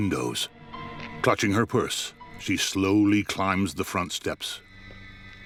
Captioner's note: gravel crunching underfoot; eerie tone plays